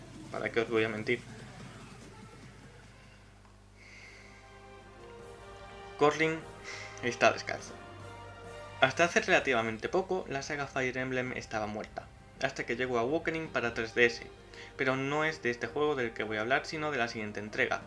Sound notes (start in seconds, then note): 6.4 sighs